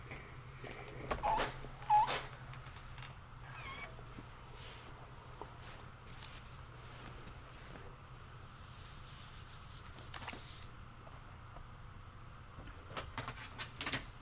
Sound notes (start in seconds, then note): 1.5 press whining